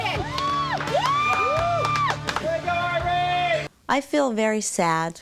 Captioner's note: people cheer